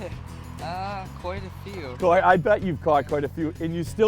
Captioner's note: chuckles